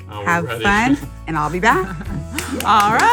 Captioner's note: claps